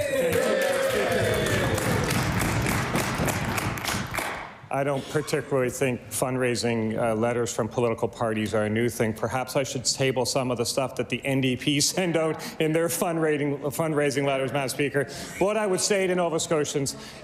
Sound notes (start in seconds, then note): 2.7 cheering/Applause